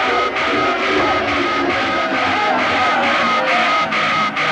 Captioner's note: alarms buzzing; people screaming